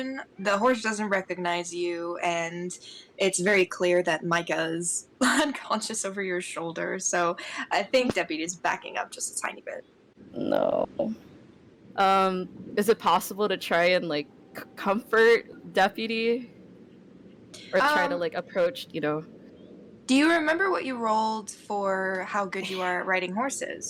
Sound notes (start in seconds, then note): none